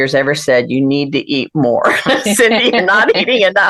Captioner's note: laughter